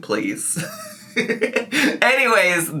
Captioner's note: laughs